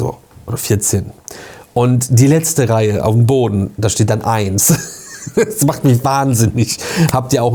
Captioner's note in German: gelächter